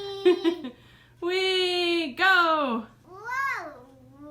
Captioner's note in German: Mutter